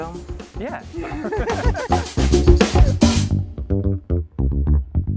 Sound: both laugh; bass riff

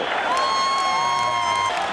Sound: cheering

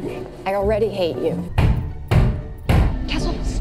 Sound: pounding on glass

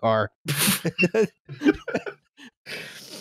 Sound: laughter

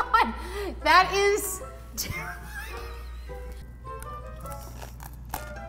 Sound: laughing; crunching

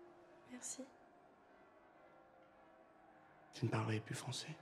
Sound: speaks in foreign language

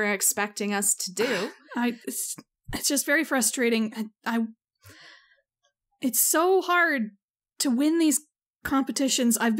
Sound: sigh

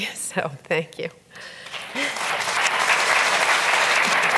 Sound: audience claps

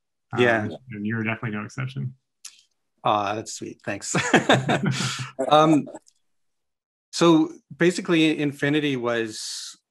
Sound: laughs

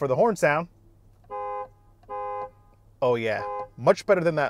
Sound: horn honking

